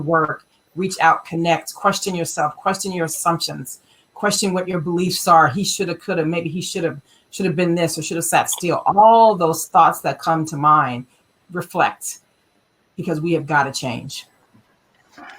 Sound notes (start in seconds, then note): none